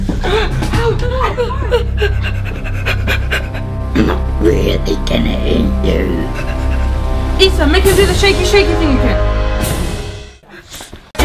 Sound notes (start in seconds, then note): 0.0 panicky breathing; 0.7 suspenseful music